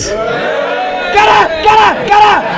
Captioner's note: most of Room Cheers